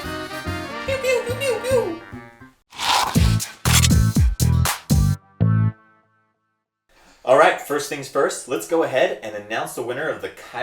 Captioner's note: silly blaster and lightsaber sounds